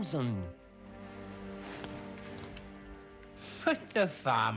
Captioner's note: linen rustling